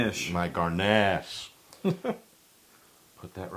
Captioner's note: laugh